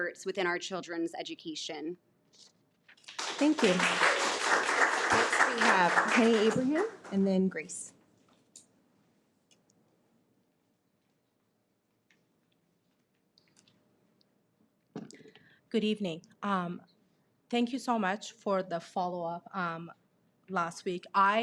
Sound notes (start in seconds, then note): 3.0 audience applauds